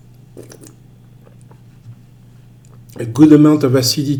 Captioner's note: wine slurps